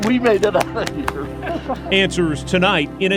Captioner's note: laughing